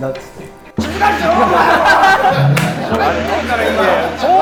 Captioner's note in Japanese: 一同・スタッフ：笑い